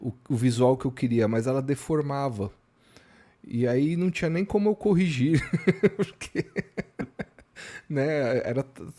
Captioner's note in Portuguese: risadas